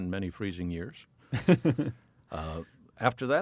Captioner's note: laughs